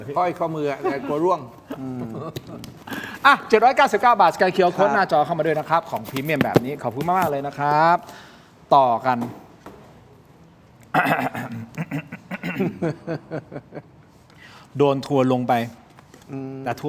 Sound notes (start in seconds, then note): 11.0 laughs; 13.4 clears throat